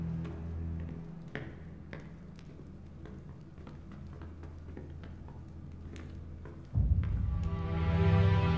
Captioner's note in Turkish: Adım sesleri